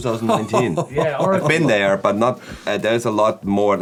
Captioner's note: laughs